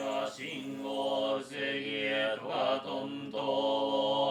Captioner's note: chanting continues